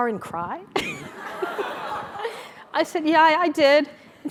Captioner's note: laugh